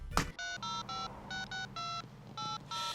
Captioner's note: phone dialing